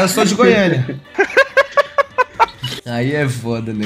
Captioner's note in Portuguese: risos